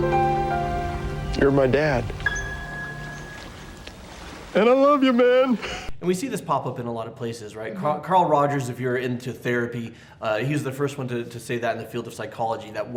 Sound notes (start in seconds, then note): 0.0 sad piano music; 4.5 crying